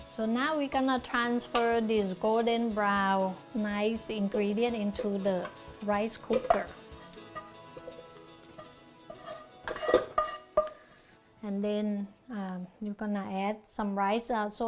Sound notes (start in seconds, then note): 6.8 pan scrapping